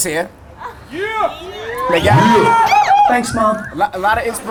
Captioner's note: audience cheering